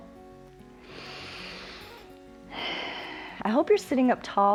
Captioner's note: inhales and exhales